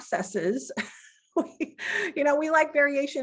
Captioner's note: laughing